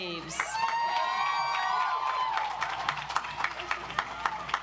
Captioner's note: audience applauds